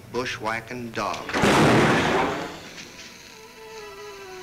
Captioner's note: gun bangs